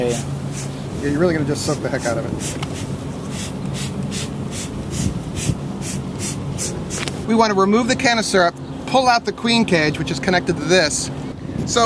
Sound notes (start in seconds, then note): 3.0 sugar water spraying